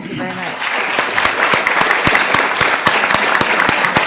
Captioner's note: audience applause